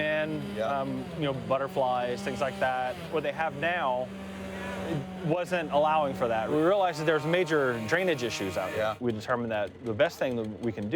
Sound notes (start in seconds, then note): none